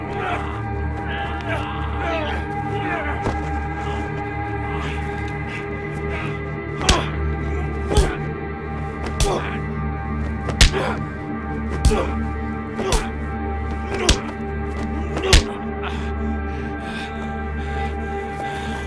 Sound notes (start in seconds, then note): 7.4 smacking; 8.7 grunting